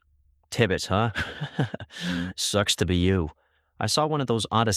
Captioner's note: chuckles